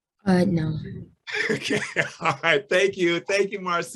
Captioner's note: laughs